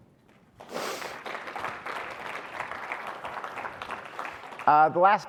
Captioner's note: audience applauding